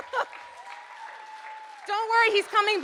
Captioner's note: audience applauding